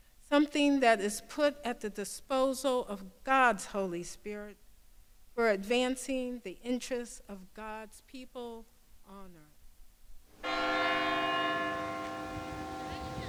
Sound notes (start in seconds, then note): 10.4 bell tolls